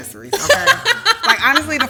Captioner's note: laughing